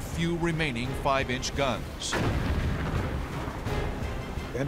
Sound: explosions

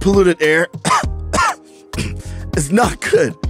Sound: coughs

